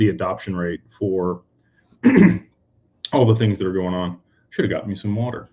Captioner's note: clears throat